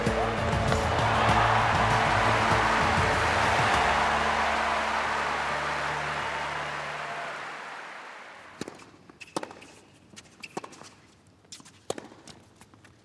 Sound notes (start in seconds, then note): 0.8 wild cheering; 9.7 squeaking, shuffling